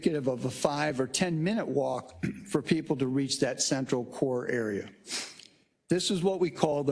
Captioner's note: cough